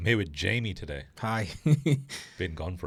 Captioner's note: laughs